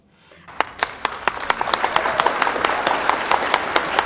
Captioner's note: applause